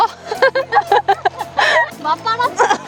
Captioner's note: laughter